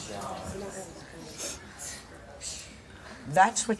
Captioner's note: audience murmurs